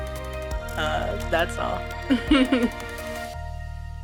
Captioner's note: laughs